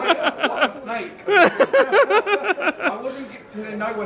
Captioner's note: laughing